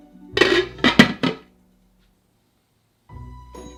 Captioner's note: lid sliding on